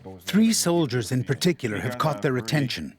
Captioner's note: voiceover